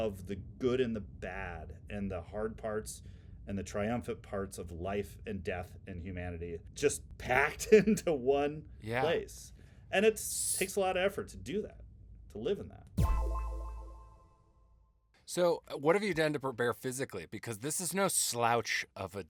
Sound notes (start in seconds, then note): 12.7 pinging